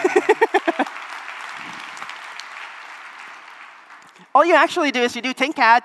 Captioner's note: applause